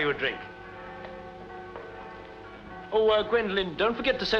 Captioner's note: church Bells